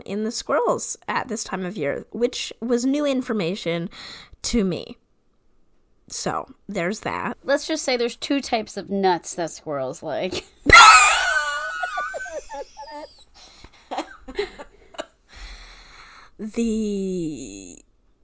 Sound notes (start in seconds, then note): 10.7 laughs; 13.8 wheeze laughs